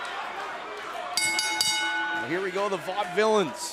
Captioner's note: bell